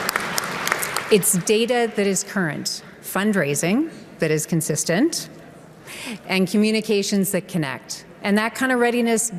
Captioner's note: applause